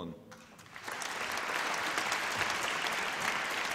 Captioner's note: applause